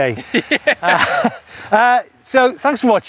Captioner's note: laughs